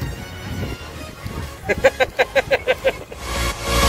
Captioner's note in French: rires